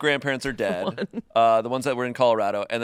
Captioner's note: laughs